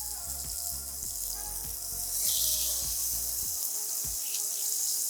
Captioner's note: oil sizzling